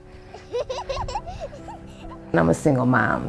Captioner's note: child giggling